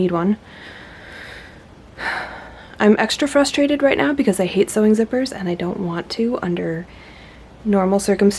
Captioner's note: sighs